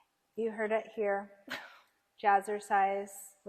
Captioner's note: laughs